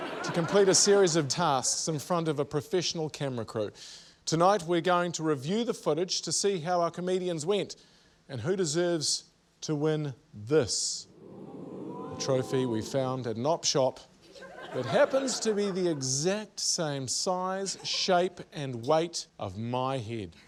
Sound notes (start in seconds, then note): 11.0 audience 'ooh's